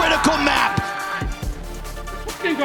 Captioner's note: players cheering